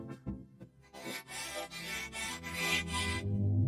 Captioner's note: panting